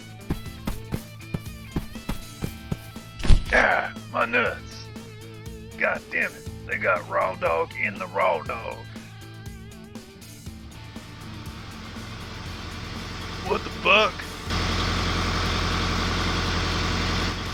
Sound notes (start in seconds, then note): 0.0 feet running; 3.2 thud; 15.2 bus engine